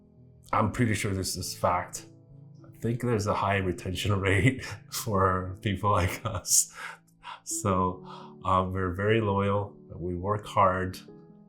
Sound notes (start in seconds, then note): 6.0 laughing